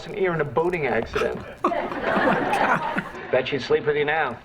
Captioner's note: chuckles